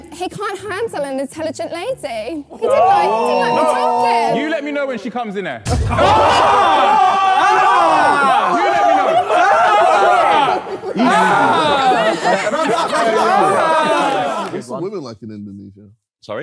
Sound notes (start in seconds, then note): 6.1 Sidemen yelling; 9.9 Sidemen laughing and yelling